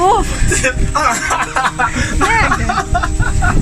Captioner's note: laughing